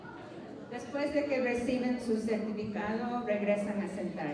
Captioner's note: non-english speech